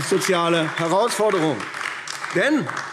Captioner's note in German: Beifall AfD